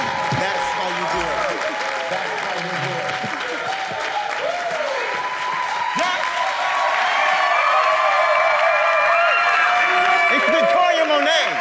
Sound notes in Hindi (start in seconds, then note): 6.9 जय-जयकार करते हुए; 6.9 ताली